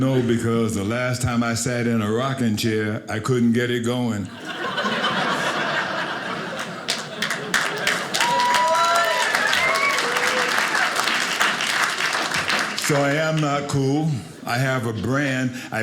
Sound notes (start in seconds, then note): 4.4 audience laughing; 5.2 audience applauding